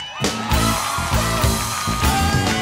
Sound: scattered cheering; crowd cheering; music intensifies

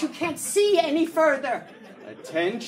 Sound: audience laughing

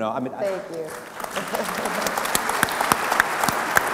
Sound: applauding

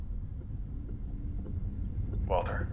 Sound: a low guttural earthquake sound signals building turmoil

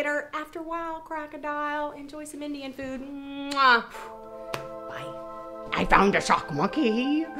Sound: blowing a kiss

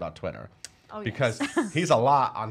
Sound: laughing

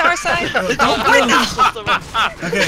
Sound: everyone laughing

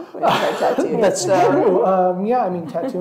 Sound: laughter drowns out speaker

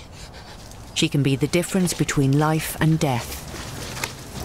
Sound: voiceover

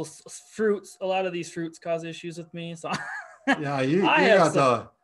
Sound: chuckles

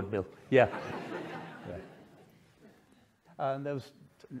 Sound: audience laughing

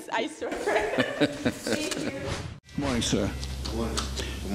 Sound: laughing

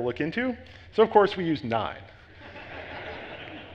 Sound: audience laughs

